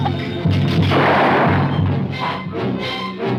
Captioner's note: bang